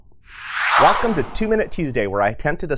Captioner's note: logo whooshes